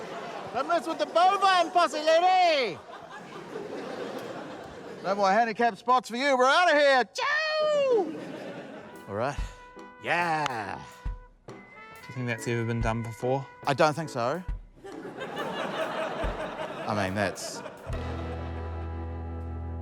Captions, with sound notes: - Don't mess with the bovine posse, lady! - (LAUGHTER) - No more handicap spots for you. We're out of here. Ciao! All right. Yeah! - You think that's ever been done before? - I don't think so. - (LAUGHTER) - I mean, that's...